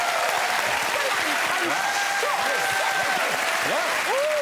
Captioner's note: cheers and applause